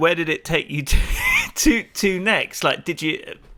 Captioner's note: chuckles